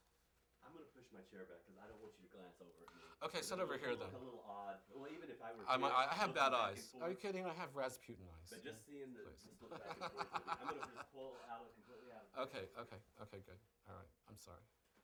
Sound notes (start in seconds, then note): 9.8 laughs, talking over interviewer